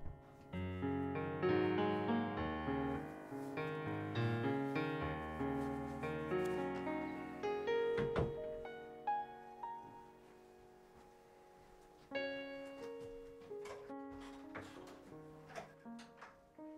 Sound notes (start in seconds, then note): 7.8 door slams shut